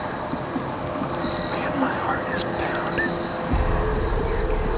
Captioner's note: whispering